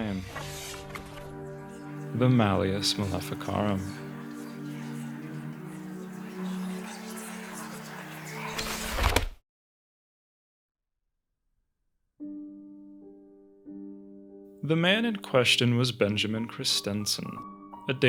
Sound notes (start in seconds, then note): 0.2 book Opening; 3.9 whispering; 8.5 book Closing